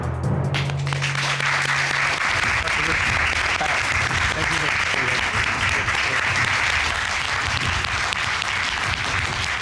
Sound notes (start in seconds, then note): 0.2 audience applauding; 4.9 indistinct chatter